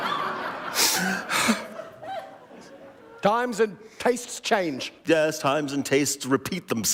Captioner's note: laughter